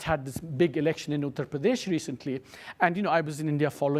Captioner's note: speaks foreign language